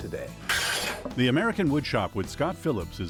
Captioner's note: metal scraping